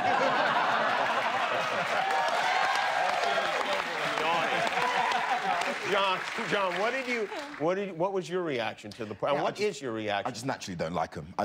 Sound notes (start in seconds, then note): 0.0 laughter; 2.3 cheers and applause